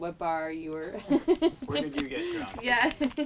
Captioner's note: laughs